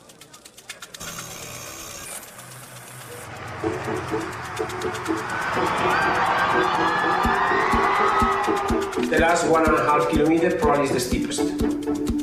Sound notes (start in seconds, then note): 0.0 wheel buzzing; 5.0 crowd cheering